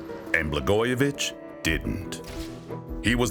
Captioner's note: camera shutter clicking